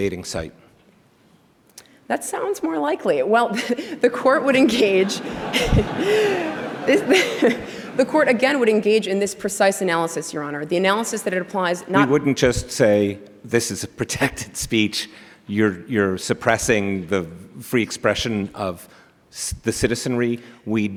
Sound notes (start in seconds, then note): 4.6 laughter